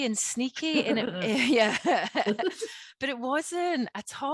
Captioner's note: both laughing